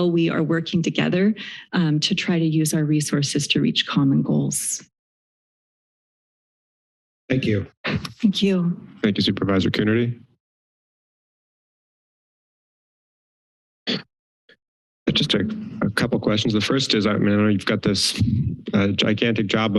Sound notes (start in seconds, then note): 4.8 pause; 10.8 silence